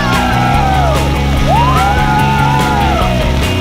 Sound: yelling; splash

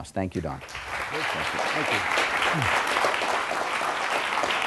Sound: applause

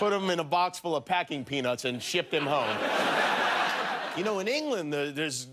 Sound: laughter

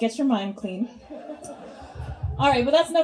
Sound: audience laughs

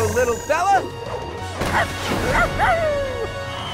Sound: barking

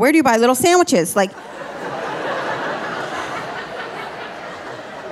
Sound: audience laughing

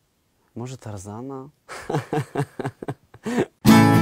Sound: laughing

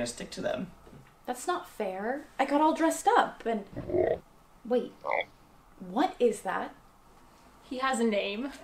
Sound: frog croaks

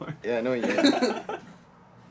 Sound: laughs

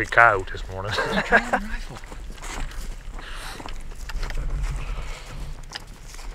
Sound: laughing

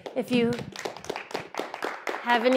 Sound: applause

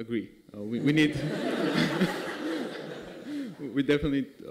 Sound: laughter

